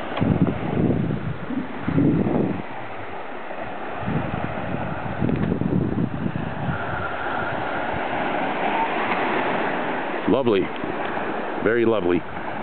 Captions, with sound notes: (Slight Wind....water sounds too) (Water lapping up on beach gets louder) lovely, very lovely